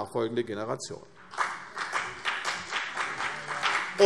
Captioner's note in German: Beifall CDU und BÜNDNIS 90/DIE GRÜNEN